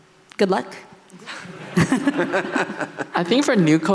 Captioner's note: laughing